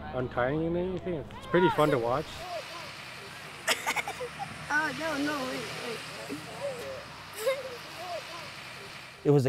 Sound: laughing

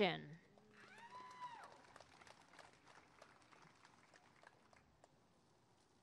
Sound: applause and cheering

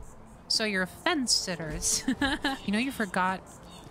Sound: laugh

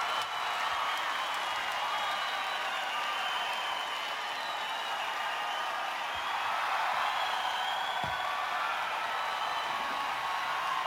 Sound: applause

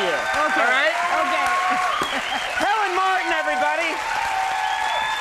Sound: laughs; audience cheering and applauding

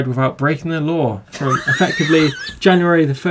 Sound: laughs

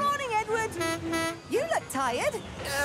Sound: honks horn

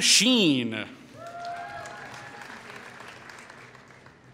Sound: applause

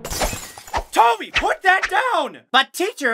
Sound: crashing noises; sword swinging noises

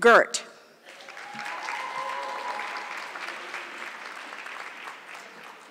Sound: audience clapping

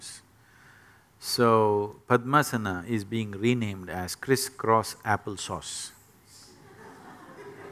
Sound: laughter

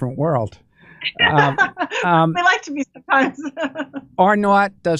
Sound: laughter

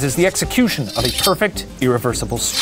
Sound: swords clanging

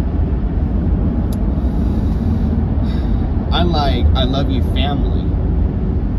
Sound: inhales, exhales

